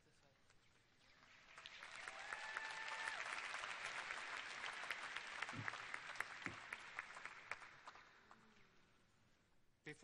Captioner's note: cheers and applause